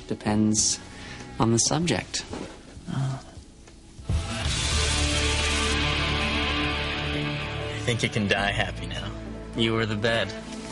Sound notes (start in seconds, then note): 2.8 groans happily?